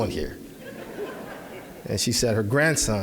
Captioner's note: audience laughing